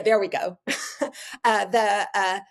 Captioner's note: chuckling